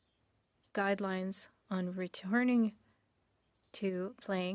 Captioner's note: speaking French